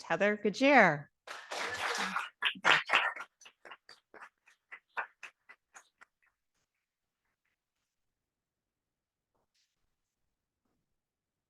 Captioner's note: audience applauding